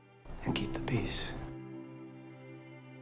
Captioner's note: voiceover